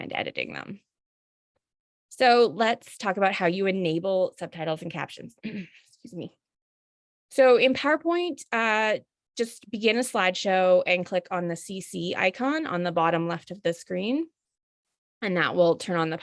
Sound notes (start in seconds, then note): 5.4 cough